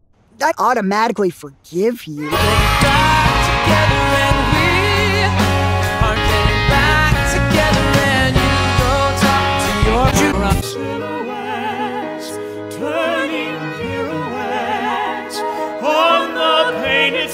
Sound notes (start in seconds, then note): 2.2 kids cheering